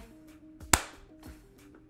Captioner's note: clap